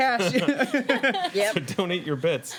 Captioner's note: laughing